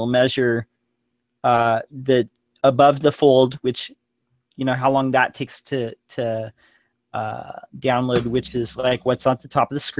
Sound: page loading

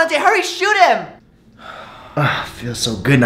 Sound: sighing

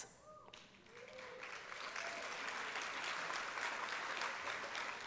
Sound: applause and cheering

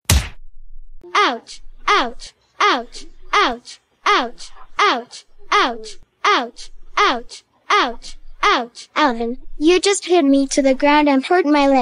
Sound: crying

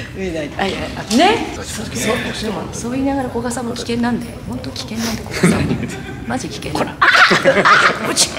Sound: laughs

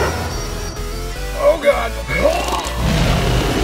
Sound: vomits

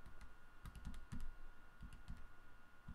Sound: tapping calculator keys

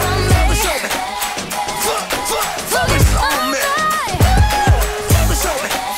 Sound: ooh

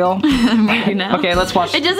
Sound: laughs

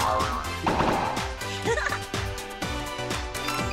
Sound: giggling

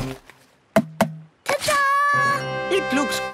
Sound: tapping

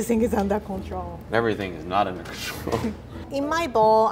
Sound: laughs

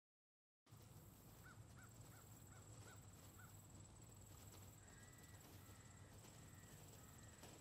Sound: birds, Crickets, Road Noise

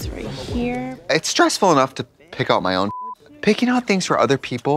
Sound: beep

